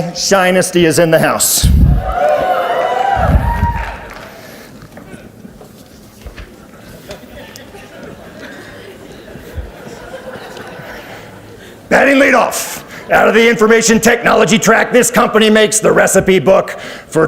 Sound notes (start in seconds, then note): 1.7 audience cheers; 7.1 audience laughs